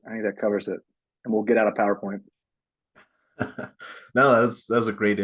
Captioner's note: chuckles